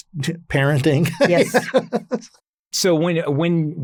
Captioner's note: laughs